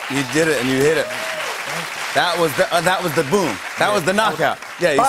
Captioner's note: applause